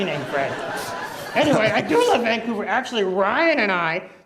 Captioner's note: audience Laughter